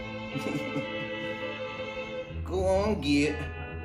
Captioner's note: chuckles